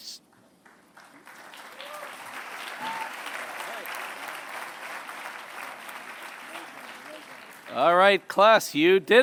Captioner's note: applause